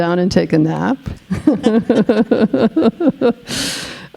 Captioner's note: laughing